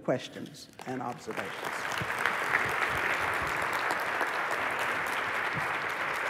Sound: applause

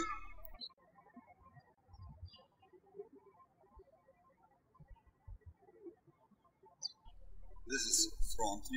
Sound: birds chirping

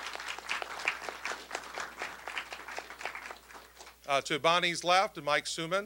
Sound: applause

